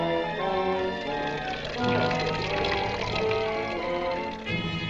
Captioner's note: liquid sloshing; suspenseful music continues